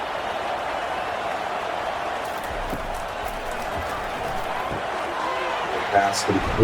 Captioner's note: crowd Noises